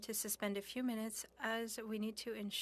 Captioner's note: speaking French